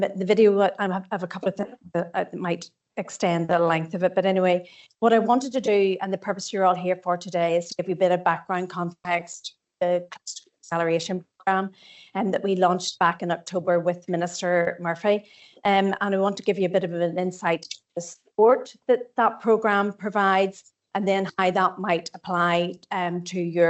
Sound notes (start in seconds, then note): 1.0 audio distorts 00.32; 9.9 audio distorts 00.41